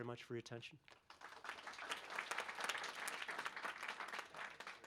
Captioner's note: applause